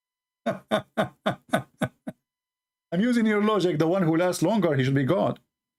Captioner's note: Ketawa